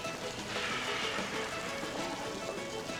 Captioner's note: exhaling